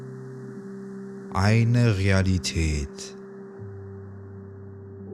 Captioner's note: german